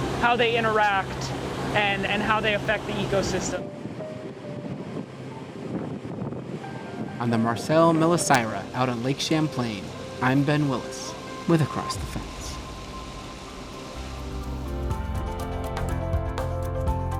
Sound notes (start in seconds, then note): 3.8 wind blowing; 13.5 cheerful music